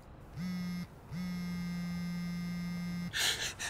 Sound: phone vibrating

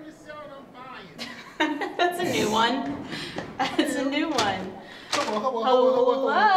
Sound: laughs

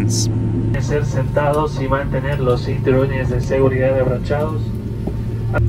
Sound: speaking in a foreign language

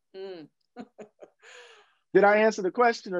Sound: laughter

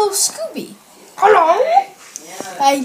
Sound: said in Scooby voice

